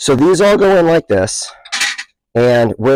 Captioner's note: jars clinking